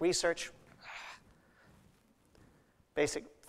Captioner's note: sighs